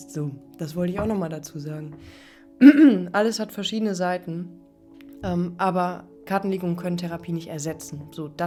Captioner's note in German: räuspern